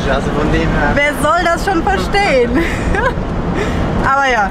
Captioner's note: laughter